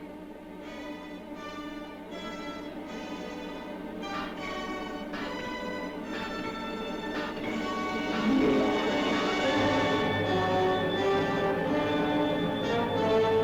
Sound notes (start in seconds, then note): 0.2 dramatic music; 4.1 metal clanking sound; 9.3 dramatic music